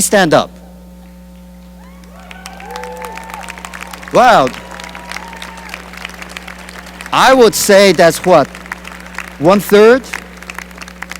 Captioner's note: cheering and applause